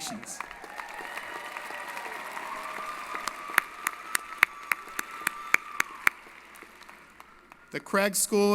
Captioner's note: applause & Cheering